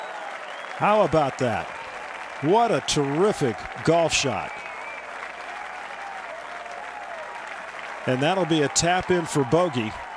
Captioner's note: cheers and applause